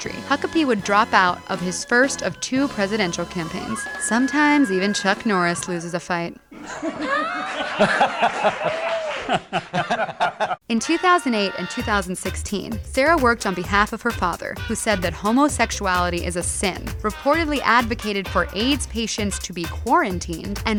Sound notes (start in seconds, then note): 6.5 Norris and Huckabee laughing